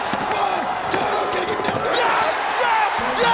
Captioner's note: hand pounding